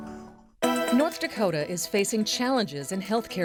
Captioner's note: voiceover